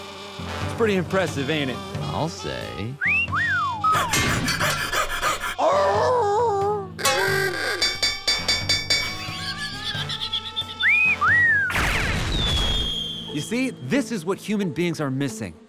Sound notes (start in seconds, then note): 3.0 wolf whistle; 4.0 panting; 6.8 ah-oogah!; 7.7 dinging; 10.6 wolf whistle